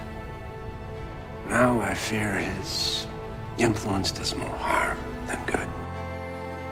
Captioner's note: voiceover